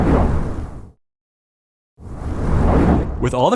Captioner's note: whoosh